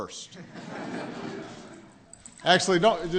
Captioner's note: laughter